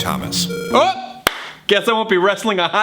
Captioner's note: game beeps